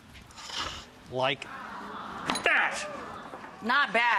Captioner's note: audience wows